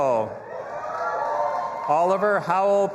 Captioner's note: audience applauding and cheering